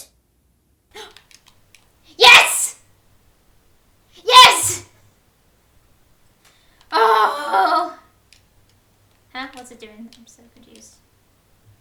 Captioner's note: gasp